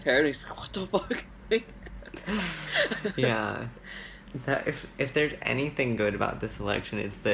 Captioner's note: laughs